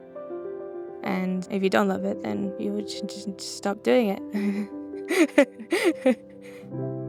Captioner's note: laughs